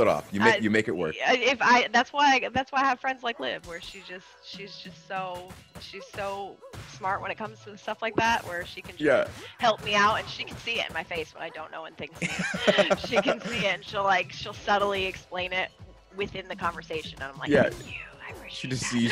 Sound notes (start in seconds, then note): 12.0 laugh